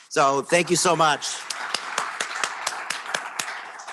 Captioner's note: applause